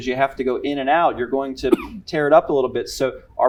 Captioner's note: cough